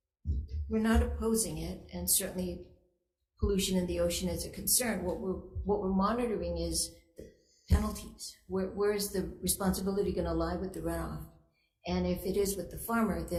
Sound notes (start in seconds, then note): none